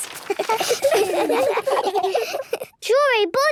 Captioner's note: children giggling